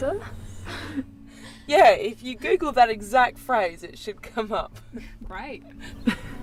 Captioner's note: laughs